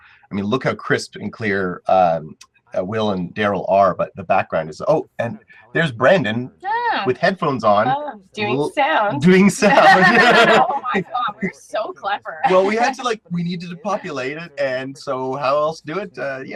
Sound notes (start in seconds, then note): 10.1 laugh